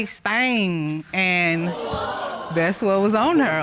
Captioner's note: audience exclaiming